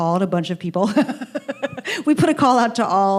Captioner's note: laughing